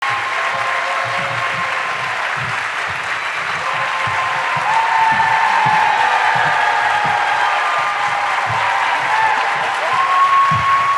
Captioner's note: cheers and applause